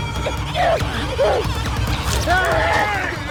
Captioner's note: discordant music; Aunspach moans; Jane groans; Aunspach moans